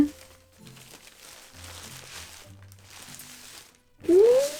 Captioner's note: more paper rustles